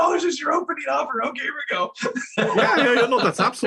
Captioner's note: laugh